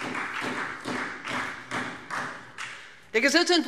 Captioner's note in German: Beifall Freie Demokraten